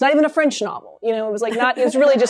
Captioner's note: laughter